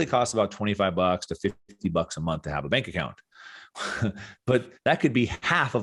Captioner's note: chuckles